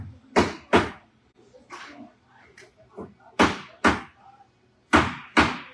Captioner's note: hammering; hammering continues